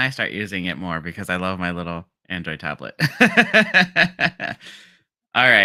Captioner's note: laughs